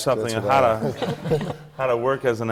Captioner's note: laughter from the panel